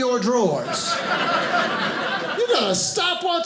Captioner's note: audience laughing